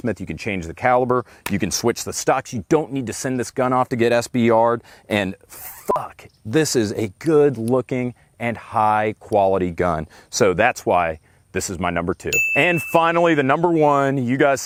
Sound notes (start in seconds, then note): 5.8 beep; 12.3 bell ringing